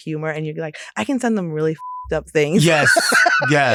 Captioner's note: beep